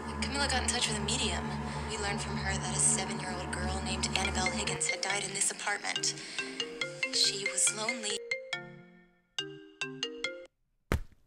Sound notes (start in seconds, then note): 4.6 phone ringing